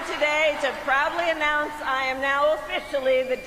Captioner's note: cheers and applause